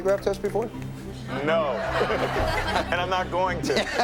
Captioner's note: laughs